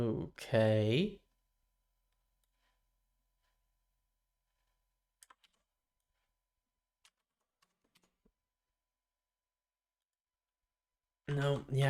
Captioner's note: silence